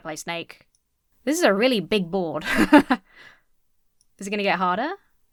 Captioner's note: laughs